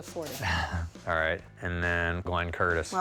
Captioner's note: laughs